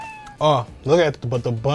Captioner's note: cat meowing